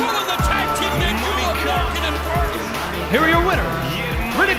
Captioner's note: bell ringing